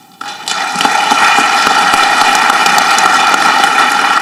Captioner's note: audience clapping